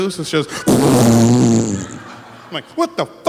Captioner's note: fart sounds